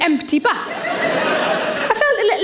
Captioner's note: audience laughs